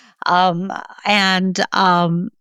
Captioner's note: laughs